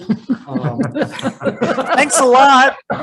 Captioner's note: all laughing